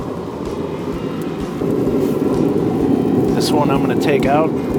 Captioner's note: wind whistling